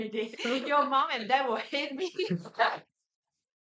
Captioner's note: everyone laughs